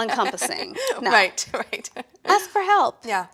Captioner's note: laughs